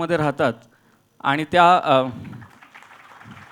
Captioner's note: applause